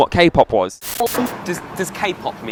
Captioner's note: static